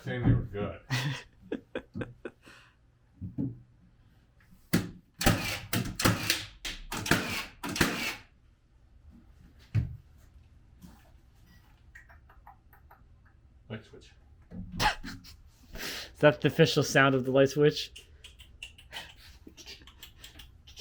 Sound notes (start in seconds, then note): 0.8 laughing; 5.2 machine drilling